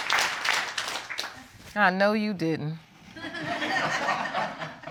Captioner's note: audience laughing